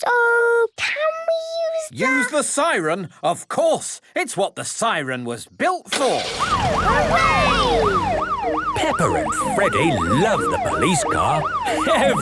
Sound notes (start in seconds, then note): 6.2 siren